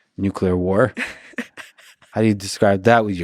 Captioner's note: laughing